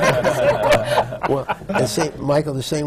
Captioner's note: laughter